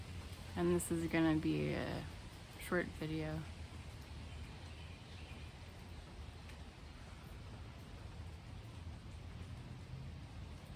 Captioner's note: sound of rain